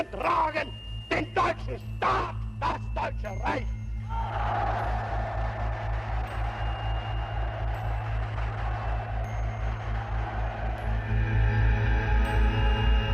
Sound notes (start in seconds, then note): 4.1 audience cheering; 4.2 audience applauding; 9.8 light tense music